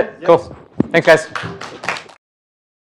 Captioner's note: applause